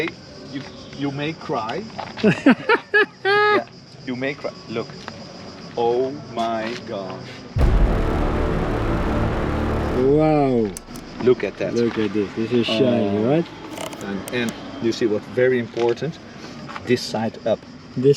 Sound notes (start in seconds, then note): 2.0 laughing; 7.6 suspenseful music